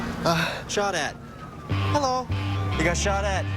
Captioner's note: panting and grunting